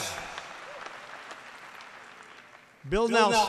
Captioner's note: applause